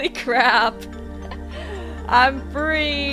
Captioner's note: distant laughing